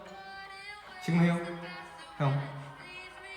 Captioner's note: in formal language